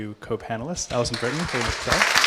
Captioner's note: applause